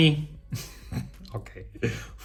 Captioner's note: laughs